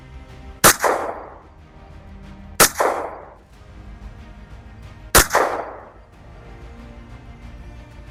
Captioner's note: gunshot; gunshot